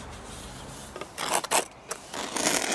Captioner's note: rough scraping noises